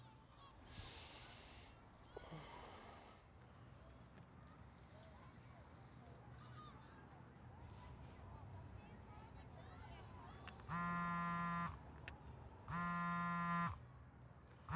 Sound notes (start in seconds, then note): 10.7 phone vibrating